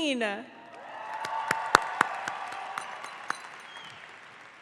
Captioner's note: audience applauds